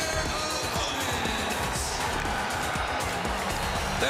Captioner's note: crowd cheering